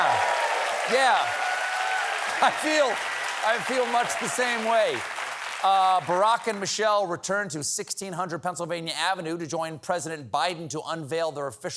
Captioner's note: applause